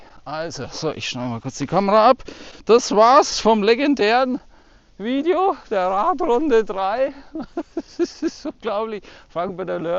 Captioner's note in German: gelächter